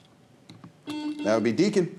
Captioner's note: buzzer beeping